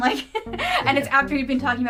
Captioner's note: laughs